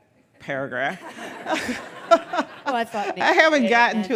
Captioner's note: audience laughing